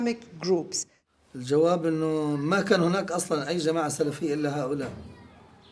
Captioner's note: speaking in Arabic